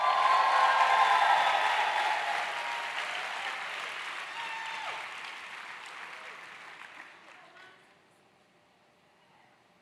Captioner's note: applause